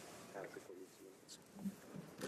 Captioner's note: speaking French